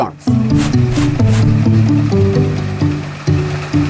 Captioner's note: text scratching; machines whirring; bright orchestral music; machines whirring